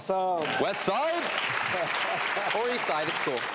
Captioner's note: audience clapping